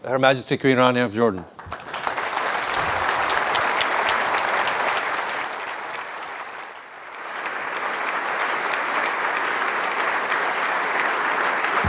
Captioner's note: applause